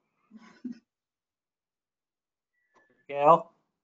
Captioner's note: lady chuckles